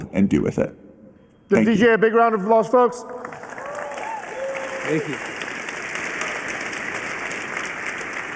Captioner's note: applause